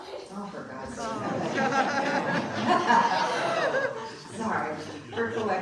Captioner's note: audience laughing